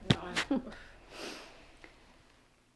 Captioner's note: chuckles